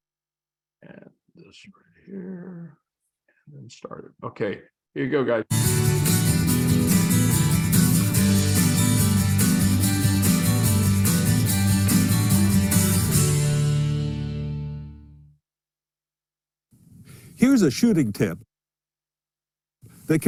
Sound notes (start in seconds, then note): 4.9 YouTube video playing